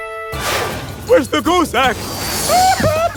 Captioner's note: sobbing